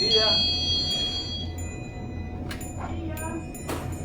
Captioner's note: bell ringing